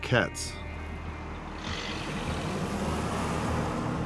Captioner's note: engine rumbles